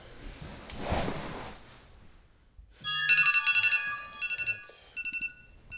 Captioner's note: smart notification chimes